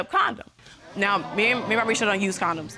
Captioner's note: audience gasps